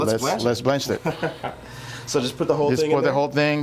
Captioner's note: laughing